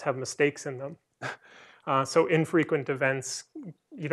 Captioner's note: laughter